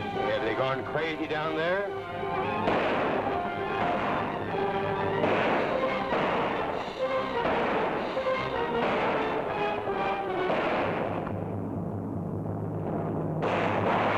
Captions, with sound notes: - Have they gone crazy down there? (guns firing)